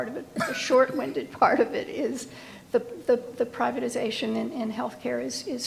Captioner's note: laughs